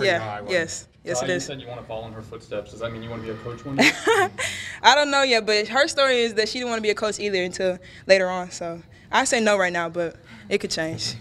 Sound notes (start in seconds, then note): 3.6 laughs